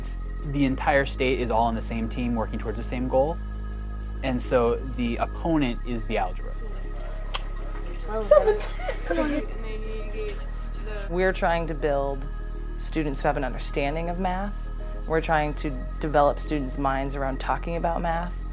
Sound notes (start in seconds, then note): 8.0 assorted children voices